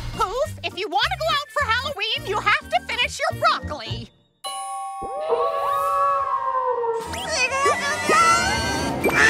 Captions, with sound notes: Poof, if you wanna go out for Halloween, you have to finish your broccoli. [howling] [moaning]